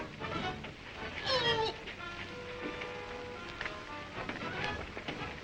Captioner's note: feet scuffle; Imperial Guard yelps